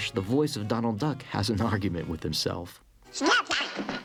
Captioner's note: chuckles